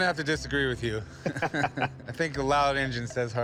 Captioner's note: both laugh